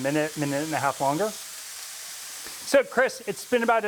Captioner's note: sizzling